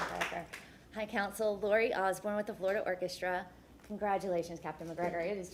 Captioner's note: applause